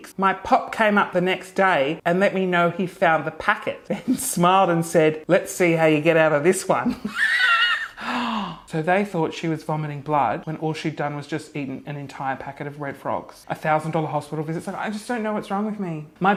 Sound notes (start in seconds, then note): 7.0 laughing loudly